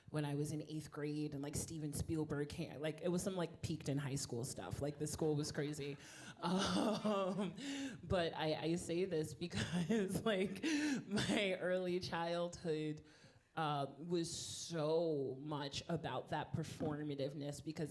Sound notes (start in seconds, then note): 7.2 laughing